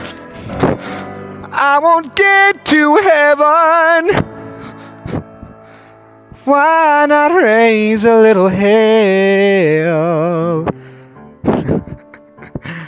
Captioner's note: laughs